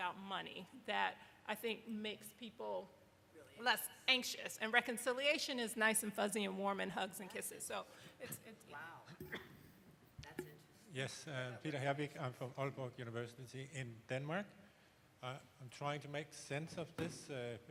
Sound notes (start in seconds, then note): 12.2 speaking quickly